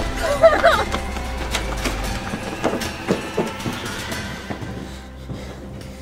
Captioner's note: dramatic music; whimpering